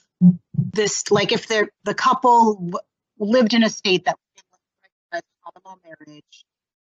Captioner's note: audio interference